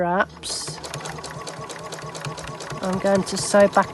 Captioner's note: machine Noise